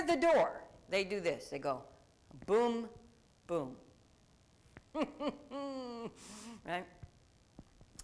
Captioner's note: laughs